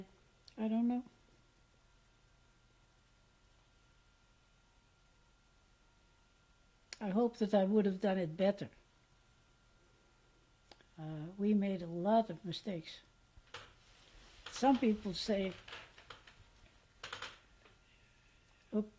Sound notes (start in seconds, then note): 1.2 pauses for 6 seconds; 8.7 pauses for 3 seconds; 16.3 pauses for 3 seconds